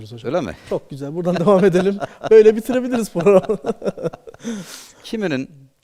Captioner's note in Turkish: kahkaha